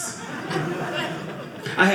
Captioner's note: audience laughing